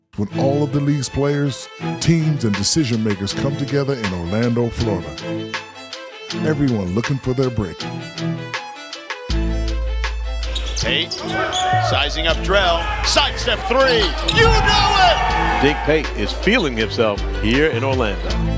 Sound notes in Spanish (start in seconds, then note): 8.9 continúa la música irresistible; 14.6 vítores del público